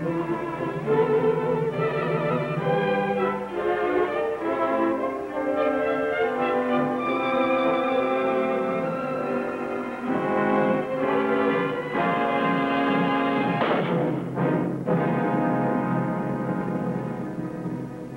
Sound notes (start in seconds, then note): 0.0 light music; 0.0 suspenseful music; 9.6 suspenseful music; 13.3 pistol fires; 15.2 dramatic music